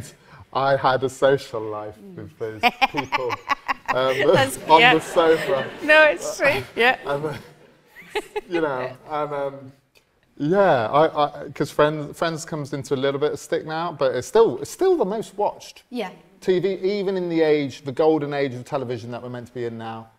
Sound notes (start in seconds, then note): 2.6 susan laughs